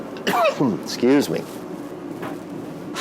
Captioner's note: coughs